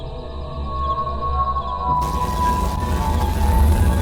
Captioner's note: otherworldly Ringing